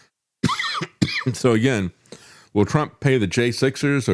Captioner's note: laughs